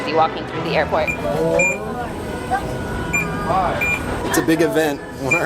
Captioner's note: machine beeping